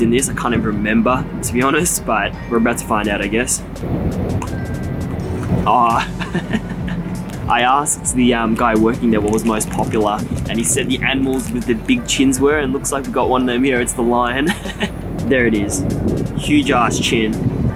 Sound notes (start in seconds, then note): 4.2 plastic lid popping open